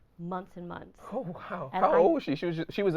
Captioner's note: laughing